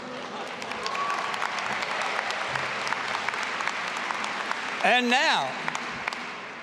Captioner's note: audience applauding and cheering